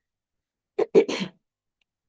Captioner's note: interpreter clears throat